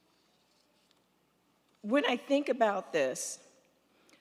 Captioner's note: none